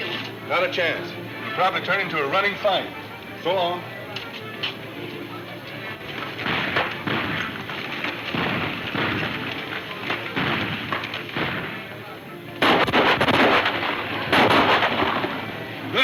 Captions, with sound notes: It'll probably turn into a running fight. So long. (gunfire pops) Knock on those horses, amigo.